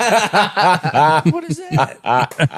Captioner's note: laughing